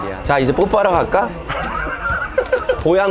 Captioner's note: laughing